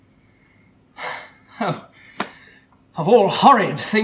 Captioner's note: sighs